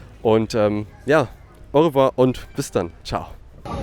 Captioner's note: French